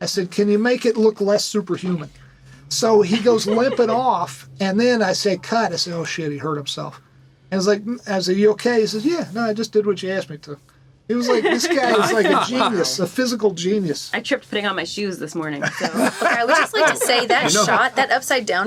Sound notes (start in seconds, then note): 3.0 laughs; 15.6 laughing